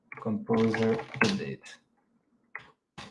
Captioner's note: keyboard clacking